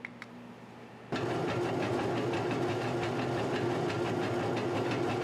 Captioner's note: machine grinding